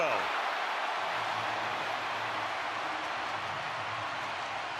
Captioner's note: cheering